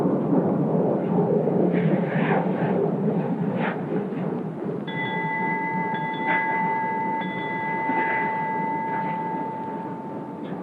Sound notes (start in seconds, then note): 4.8 bell ringing